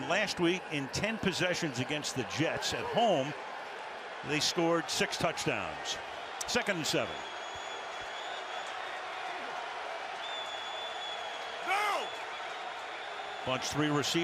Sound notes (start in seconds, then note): 8.0 crowd cheers